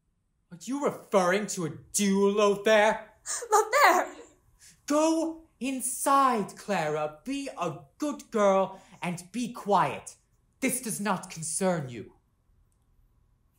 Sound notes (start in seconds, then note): none